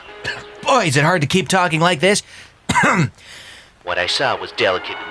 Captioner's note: coughs